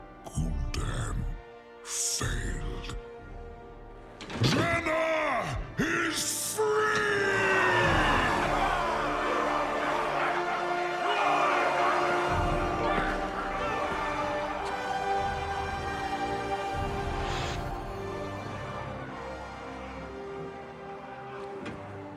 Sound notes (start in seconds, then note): 7.2 cheers